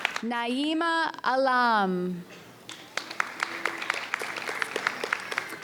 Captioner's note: audience applauds